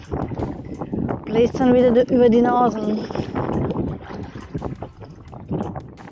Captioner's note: paddling, wind & soft music